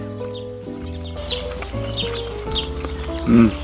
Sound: chew chew

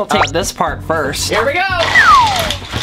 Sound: slide whistle

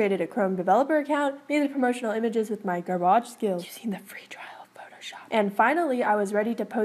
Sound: whisper* using the free trial of photoshop

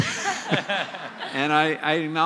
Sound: laughter

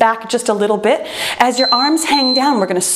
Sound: timer beeps

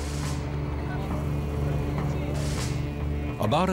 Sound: crowd chattering

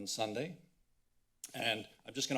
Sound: clicks tongue

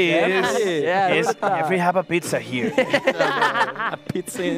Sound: laughter

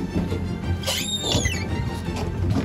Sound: door creaks open

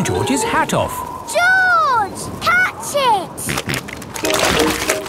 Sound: snorting

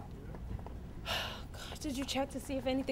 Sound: exhales sharply

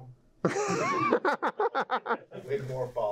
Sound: laughter

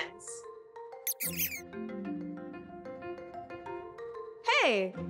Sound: possums squeaking

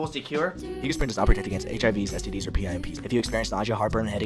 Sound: speaking rapidly

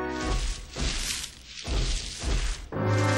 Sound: thudding

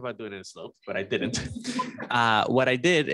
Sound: laughter

